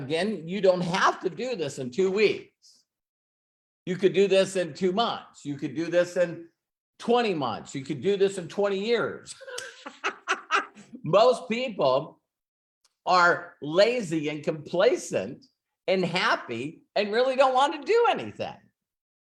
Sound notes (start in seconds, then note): 9.4 laughs